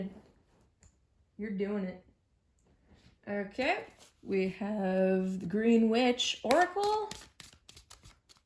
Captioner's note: shuffles